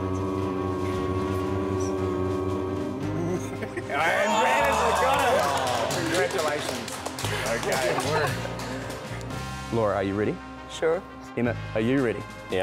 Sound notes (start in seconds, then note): 3.8 all cheering